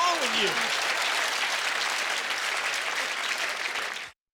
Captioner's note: clapping